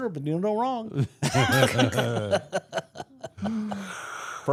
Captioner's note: all laughing